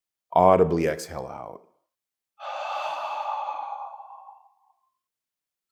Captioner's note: slowly exhales